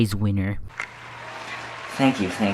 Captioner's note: crowd applauds